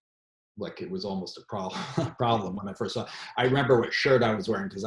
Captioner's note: chuckles